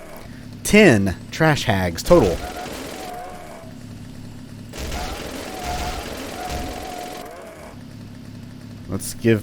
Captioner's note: motorized mayhem continues